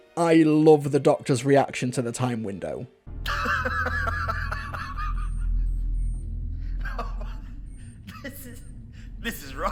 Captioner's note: laughs in Scottish